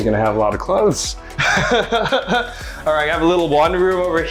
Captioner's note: chuckling